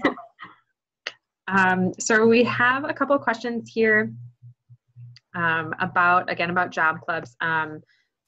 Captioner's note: chuckling